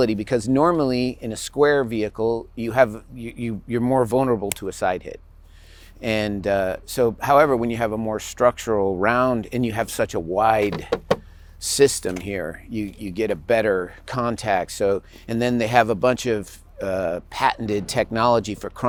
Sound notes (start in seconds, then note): 10.6 taps